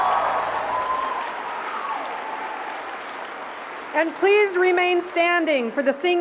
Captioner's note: cheers and applause